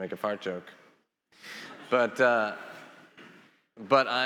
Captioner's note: attendees laughing